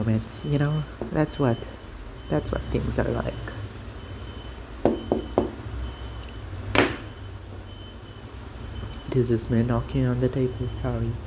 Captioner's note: knock